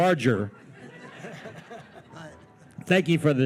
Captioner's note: attendees laughing